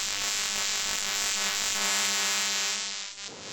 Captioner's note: static